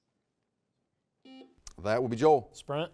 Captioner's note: buzzer beeping